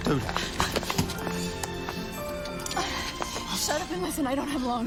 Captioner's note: sirens blaring